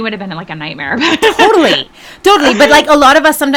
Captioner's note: laughing